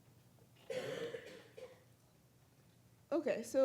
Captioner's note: audience member coughing